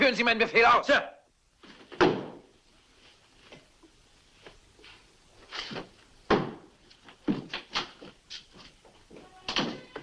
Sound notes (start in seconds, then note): 1.7 stamps floor